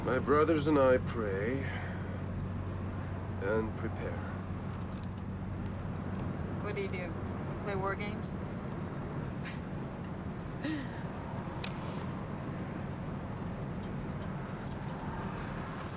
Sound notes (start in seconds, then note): 9.6 chuckles